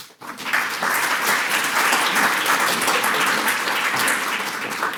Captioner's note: audience applauds